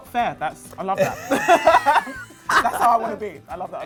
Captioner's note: both laughing